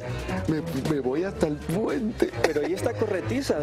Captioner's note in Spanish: risas